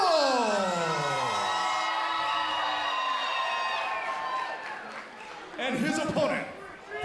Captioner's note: crowd cheering